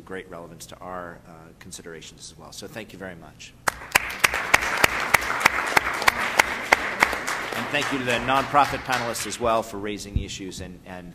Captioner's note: applause